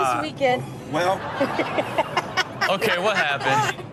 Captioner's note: cameraperson laughs